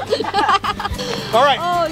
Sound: laughing

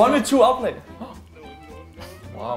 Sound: gasps sarcastically

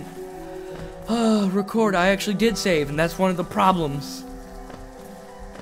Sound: sigh

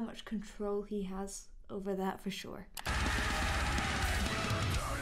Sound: mouse clicks

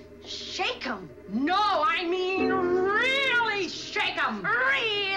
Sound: yells

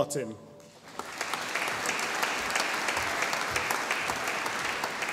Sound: audience applauding

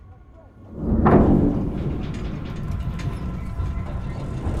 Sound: ominous music playing; car rattling

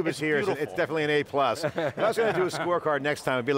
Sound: all laugh

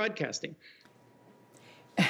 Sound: laughter

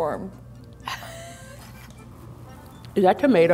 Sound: laughing

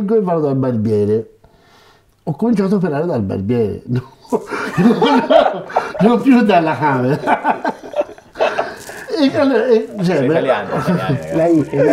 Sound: laughts

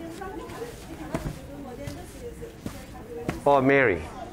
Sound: people chatting

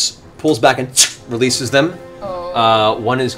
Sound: tssk

